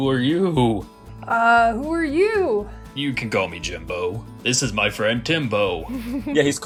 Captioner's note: laughter